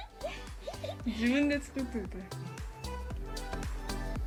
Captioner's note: speaking in foreign language